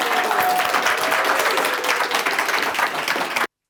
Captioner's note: applause